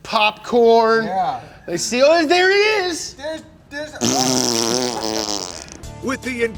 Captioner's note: blows raspberry